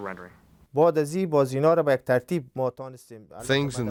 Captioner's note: non-english speech